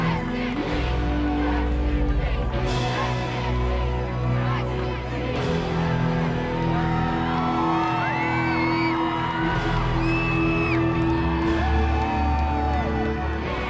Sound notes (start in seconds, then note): 6.1 crowd cheering; 6.1 dramatic music continues